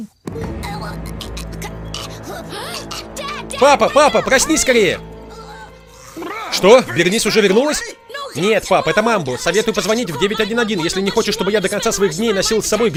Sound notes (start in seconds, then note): 0.1 gagging; 1.5 gasping